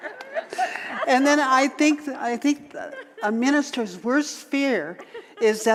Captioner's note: audience laughter